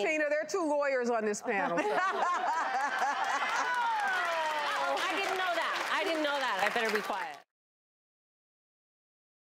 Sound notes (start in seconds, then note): 1.4 audience laughs